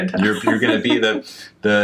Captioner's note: laughs